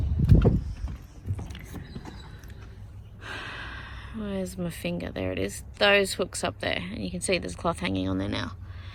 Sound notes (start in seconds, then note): 3.2 sighs